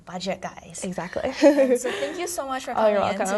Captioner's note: both laugh